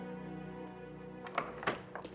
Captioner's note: door opens